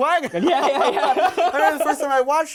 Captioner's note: laughs